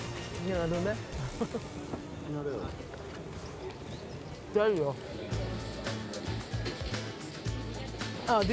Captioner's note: speaking in greek